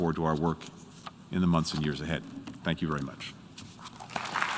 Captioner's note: applause